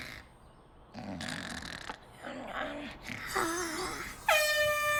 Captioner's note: snoring; air horn blares